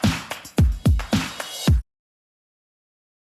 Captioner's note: music stops